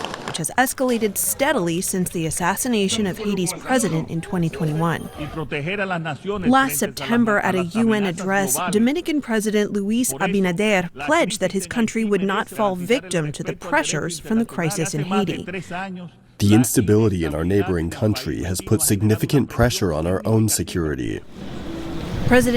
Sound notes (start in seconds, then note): 16.8 through translator